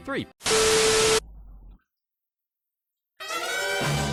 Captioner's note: power cuts out